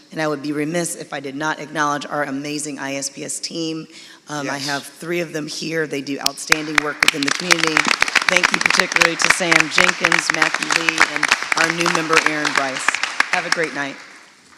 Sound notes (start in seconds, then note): 8.0 audience clapping